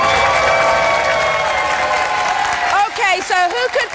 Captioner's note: audience applauding